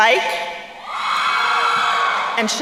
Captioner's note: crowd cheering